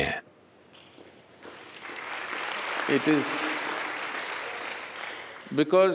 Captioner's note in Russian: аплодисменты